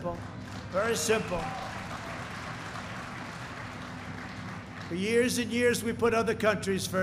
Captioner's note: applause